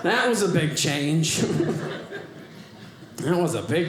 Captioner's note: audience laughing